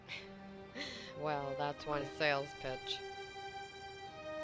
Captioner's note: chuckling